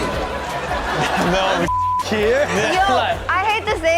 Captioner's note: beep